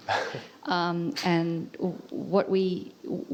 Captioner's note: laugh